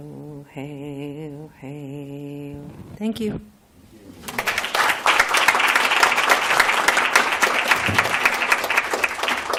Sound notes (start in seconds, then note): 4.2 applause